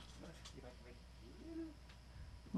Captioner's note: speaking off mic